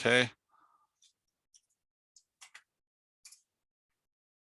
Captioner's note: mouse clicking